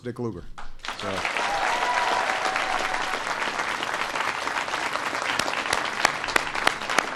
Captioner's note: applause